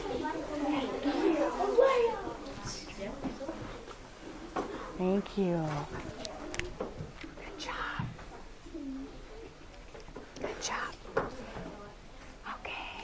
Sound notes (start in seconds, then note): 7.3 whispers